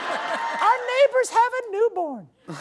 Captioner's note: exaggerated accent